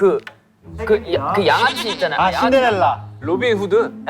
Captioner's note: mispronunciation